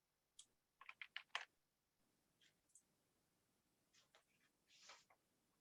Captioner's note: keyboard keys clicking